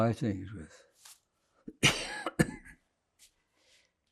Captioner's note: coughing